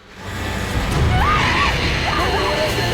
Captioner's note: screaming; sobbing